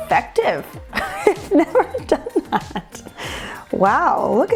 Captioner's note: laugh